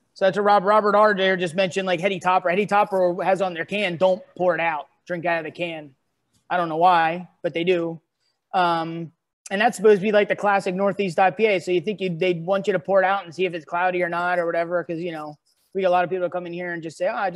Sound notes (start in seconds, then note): none